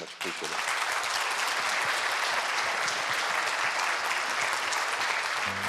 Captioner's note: applause